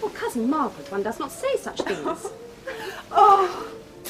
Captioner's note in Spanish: Risas